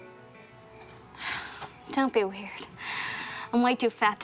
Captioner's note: sighs